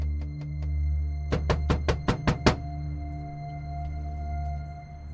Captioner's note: Nick knocking